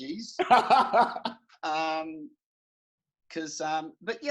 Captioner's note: laughing